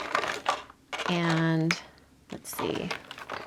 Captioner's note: objects knocking